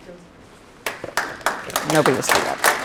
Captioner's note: applause